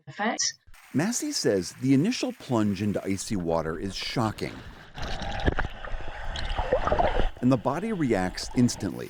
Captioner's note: voice-over